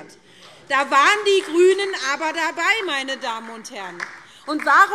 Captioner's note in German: Beifall SPD, vereinzelt DIE LINKE und Freie Demokraten